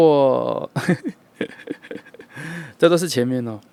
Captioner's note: laughing